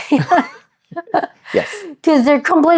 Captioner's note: laughing